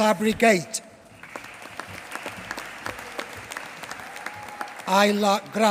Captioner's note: applause